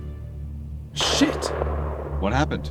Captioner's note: gunshot echoes